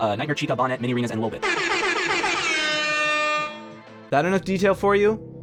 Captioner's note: airhorn